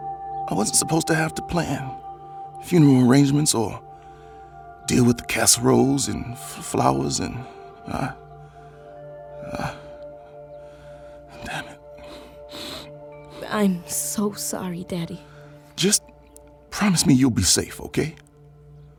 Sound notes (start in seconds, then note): 9.2 he sniffles